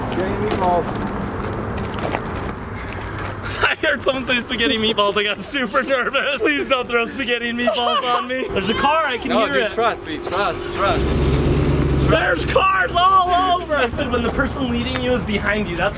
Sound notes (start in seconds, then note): 4.2 laughs